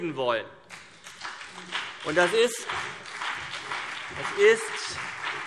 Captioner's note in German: Beifall CDU und BÜNDNIS 90/DIE GRÜNEN